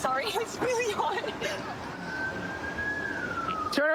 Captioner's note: siren wailing